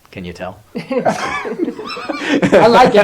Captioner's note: laughter